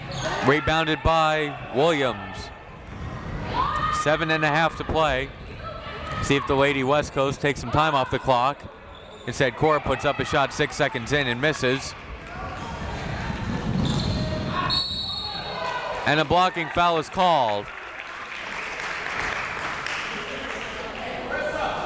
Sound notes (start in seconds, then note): 14.6 whistle tweeting; 18.4 crowd clapping; 21.2 crowd members shouting